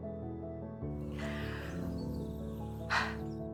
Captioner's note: June exhales